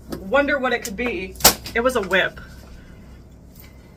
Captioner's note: crack!